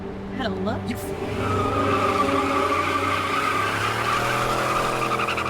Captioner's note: tires screeching